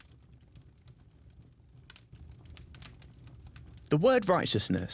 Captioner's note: flames crackling